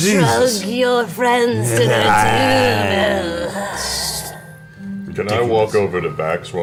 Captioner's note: in an exaggeratedly evil voice